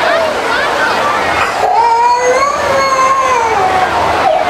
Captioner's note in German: Kind weint